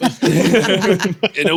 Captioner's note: laughing